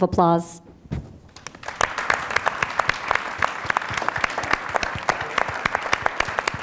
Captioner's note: applause